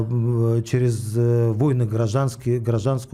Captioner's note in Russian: none